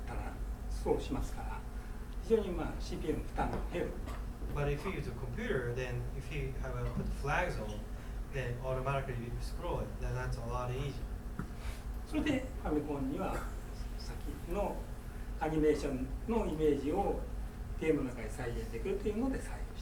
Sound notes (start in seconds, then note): 0.0 speaking in foreign language; 12.2 speaking in foreign language; 13.2 coughing